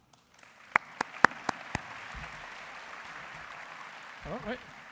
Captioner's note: applause